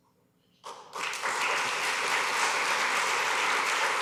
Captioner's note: applause